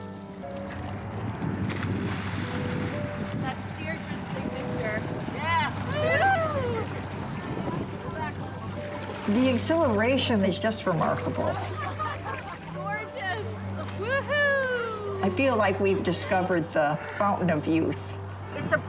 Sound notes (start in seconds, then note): 1.6 water splashing; 11.3 people laughing